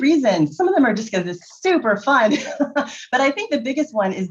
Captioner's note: laughs